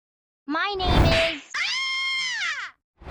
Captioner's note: smack; girly scream